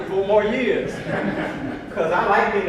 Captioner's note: audience laughs